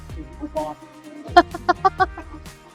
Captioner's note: laughing